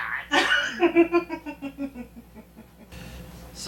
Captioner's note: laughing